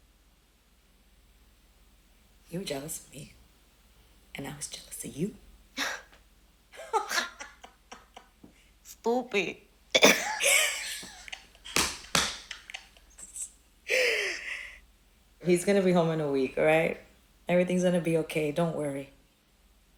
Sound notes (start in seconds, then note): 6.7 laughs; 6.7 both laughing; 10.0 laughing